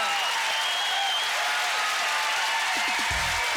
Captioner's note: audience cheers and applause